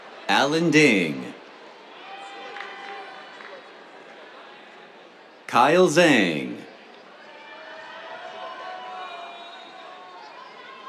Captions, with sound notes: Allen Ding. [APPLAUSE] Kyle Zhang. [CHEERS]